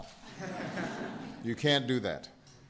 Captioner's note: laughter